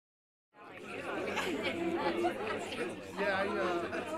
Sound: chatter

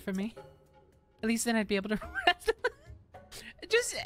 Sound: laughter

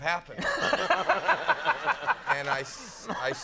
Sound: Conan laughing

